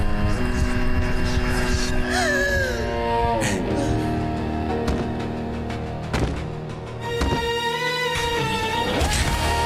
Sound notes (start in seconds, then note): 2.0 gasping